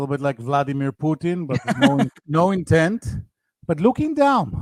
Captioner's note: laughing